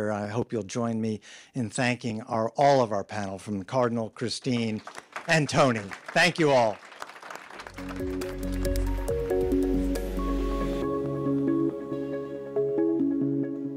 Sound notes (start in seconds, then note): 4.5 audience applauding; 7.6 gentle, upbeat music